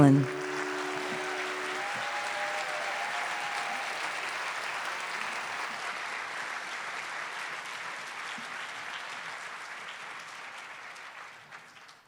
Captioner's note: cheers and applause